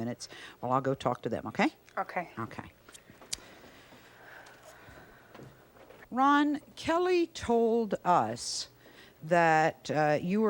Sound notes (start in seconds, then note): none